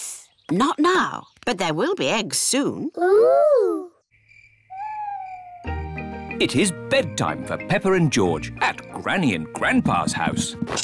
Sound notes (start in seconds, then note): 4.0 crickets chirping